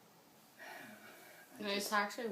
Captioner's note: sighs